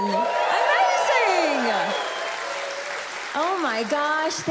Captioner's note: audience cheers